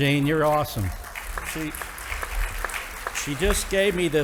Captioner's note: audience applauding